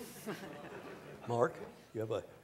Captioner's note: laughter